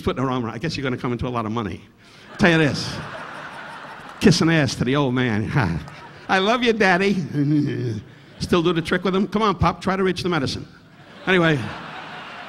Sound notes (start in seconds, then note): 2.2 audience laughing; 7.4 Don grunting into mic; 10.9 audience laughing